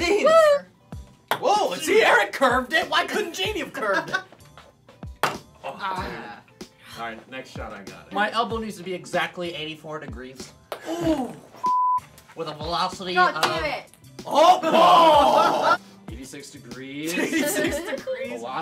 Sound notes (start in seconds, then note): 4.5 groaning; 14.3 groaning; 14.4 laughing